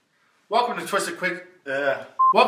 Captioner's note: beep